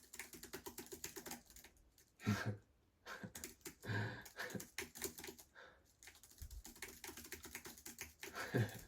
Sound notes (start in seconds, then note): 0.0 typing; 3.1 typing + laughter